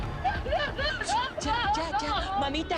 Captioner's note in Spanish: Sollozos